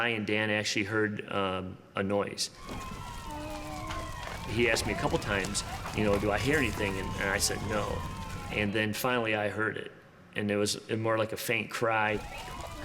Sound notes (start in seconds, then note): 2.5 sirens wail; 3.0 muffled moan